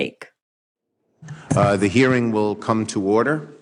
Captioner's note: soundbite of archived recording